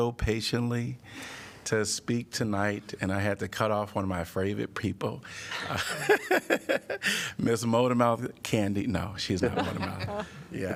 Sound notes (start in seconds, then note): 5.5 laughter